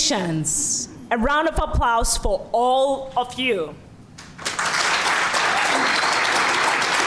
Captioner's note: applause